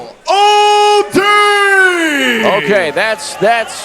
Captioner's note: crowd booing